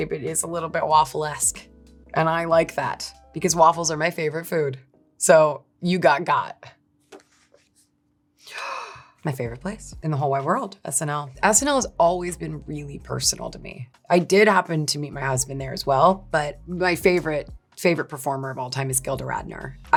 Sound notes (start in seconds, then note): 8.5 person gasping